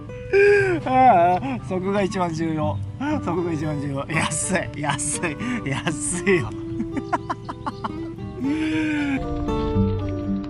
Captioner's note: laughs